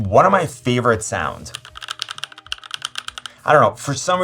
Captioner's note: keyboard clicking